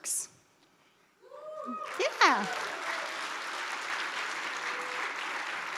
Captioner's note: audience applauds